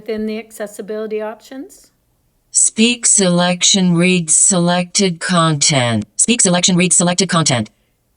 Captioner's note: iPad speaks